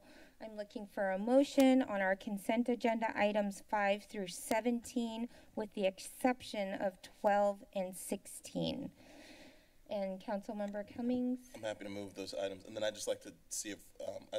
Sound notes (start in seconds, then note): 9.0 inhales